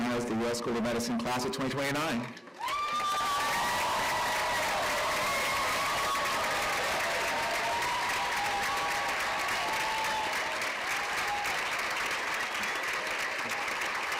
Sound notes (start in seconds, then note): 4.4 cheers and applause